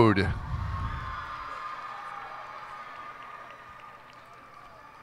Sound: cheers and applause

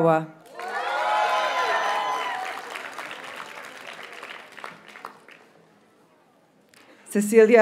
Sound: audience cheers and applauds

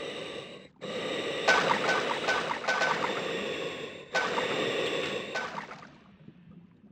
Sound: pew pew pew pew

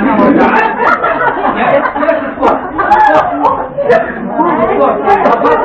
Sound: laughter

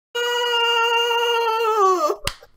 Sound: none

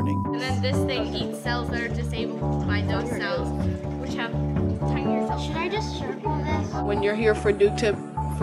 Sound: student chatter

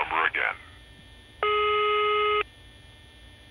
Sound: beep

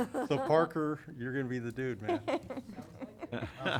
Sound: laughter; laughter

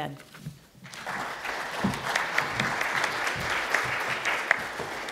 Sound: audience applauding

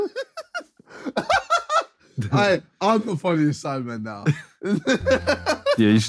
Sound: laughing

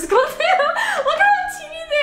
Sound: giggling

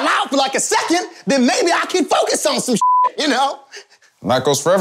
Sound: beep

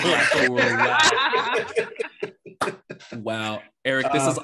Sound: laughter continues

